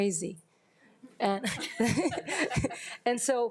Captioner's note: attendees laughing